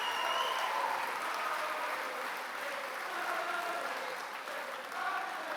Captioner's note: chanting